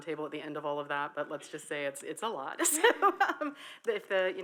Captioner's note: laughs